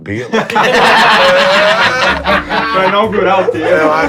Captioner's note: risos